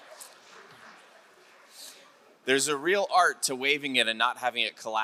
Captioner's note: none